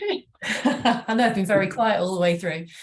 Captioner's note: laughing